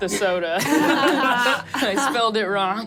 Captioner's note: everyone laughs